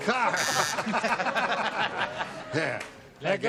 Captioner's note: buzzing